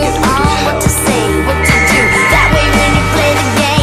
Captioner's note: Bric blows whistle for help